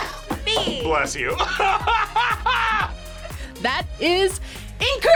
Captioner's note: laughs